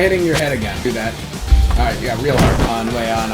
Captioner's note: mic clip